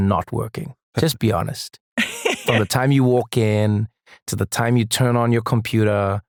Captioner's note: laugh